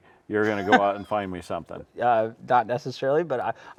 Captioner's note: laughing